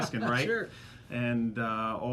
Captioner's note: laughs